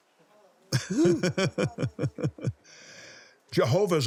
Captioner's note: laughs